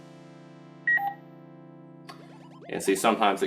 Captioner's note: beep